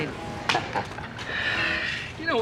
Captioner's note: laughs